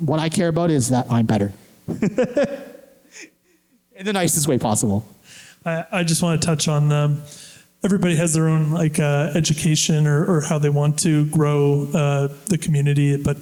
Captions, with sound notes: What I care about is that my better. (Laughter) In the nicest way possible. I think it's a great way to touch on everybody has their own education or how they want to grow the community.